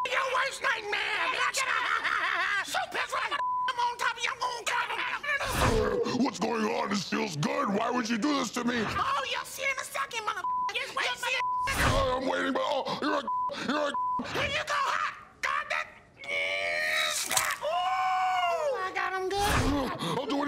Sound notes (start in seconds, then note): 1.0 laughs; 5.6 deep voice; 12.2 deep voice